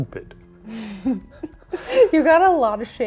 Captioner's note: laughs